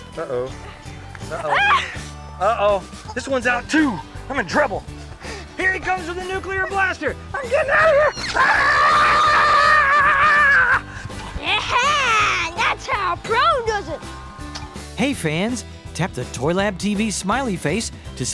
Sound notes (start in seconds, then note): 10.3 screams; 12.1 chuckles